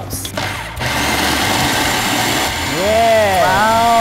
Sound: food processor whirring

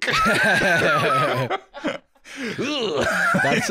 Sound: both laughing

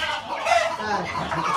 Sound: Arabic

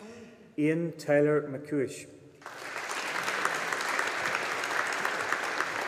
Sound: audience applauding

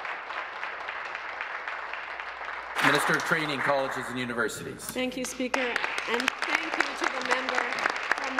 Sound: applause

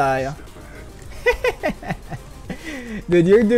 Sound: laughs

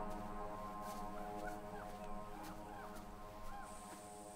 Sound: footsteps

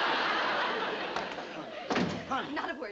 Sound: door slams shut

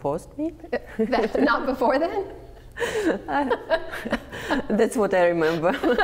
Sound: laughter

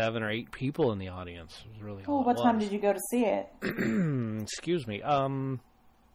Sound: DJ clears throat

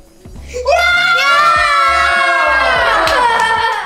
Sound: all yelling

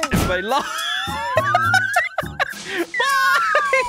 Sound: laughter

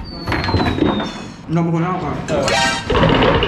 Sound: crashing

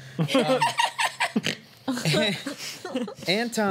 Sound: laughter

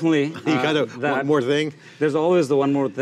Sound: laughs

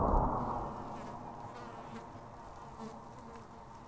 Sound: fly buzzing

